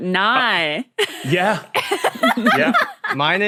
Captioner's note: laughs uproariously